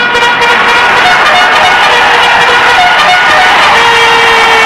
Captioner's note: crowd cheering